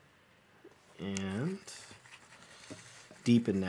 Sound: rustling

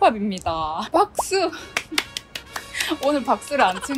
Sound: clap clap clap

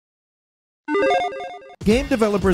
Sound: electronic beeps

